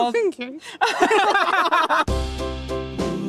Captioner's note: laughing